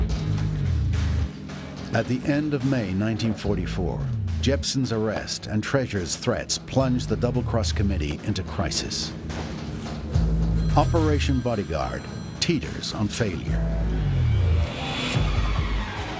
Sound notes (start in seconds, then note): 10.2 phone rings